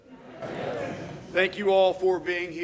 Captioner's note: audience responds